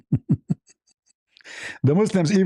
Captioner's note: ketawa